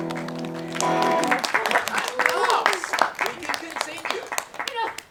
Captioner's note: applause